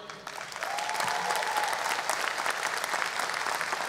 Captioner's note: audience applause